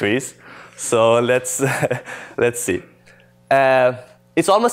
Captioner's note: laughter